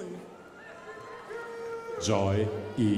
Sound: crowd applauding

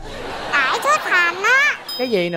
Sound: laughing

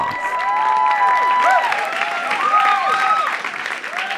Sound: crowd cheers

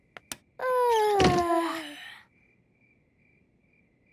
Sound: both yawning; light clicks

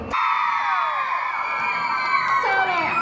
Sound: cheering

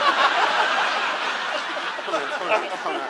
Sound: audience laughs

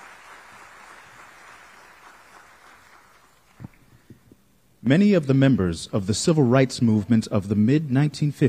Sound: applause

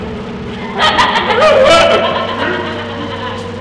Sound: laughing; screams; laughing

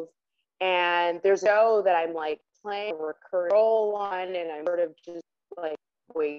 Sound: voice cutting in and out

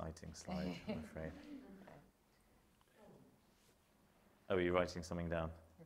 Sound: chuckling

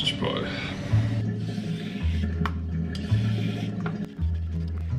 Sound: washing machine running🙏

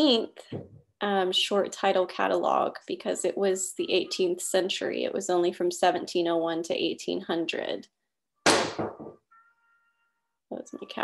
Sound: loud bang

